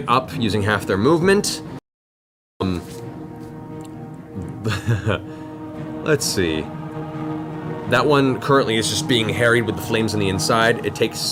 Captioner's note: laughs